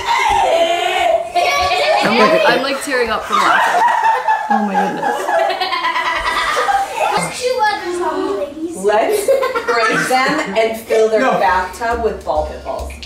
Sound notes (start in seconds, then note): 3.7 laughing